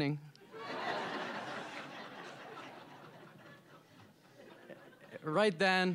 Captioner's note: all laughing